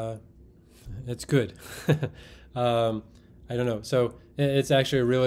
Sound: chuckles

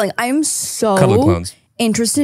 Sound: laughs

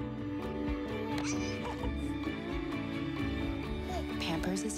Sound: baby laughing

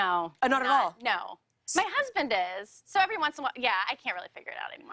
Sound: none

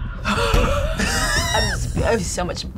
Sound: exhales; laughs

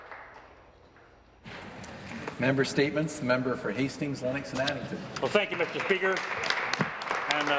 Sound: applause

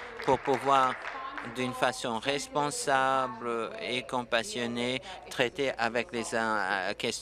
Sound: applause

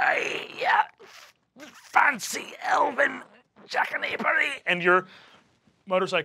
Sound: groans

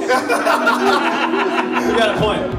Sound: all laughing

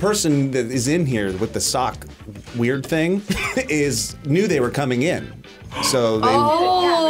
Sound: laughs

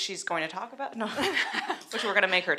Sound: laughter

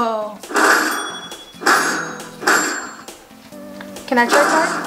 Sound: electronic dings

